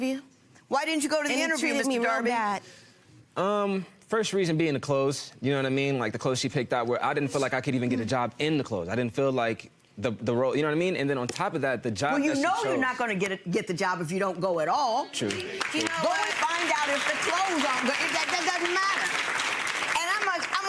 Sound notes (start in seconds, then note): 15.2 audience clapping